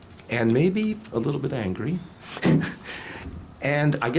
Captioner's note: laughs